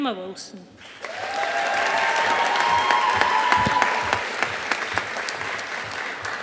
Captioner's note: audience applauding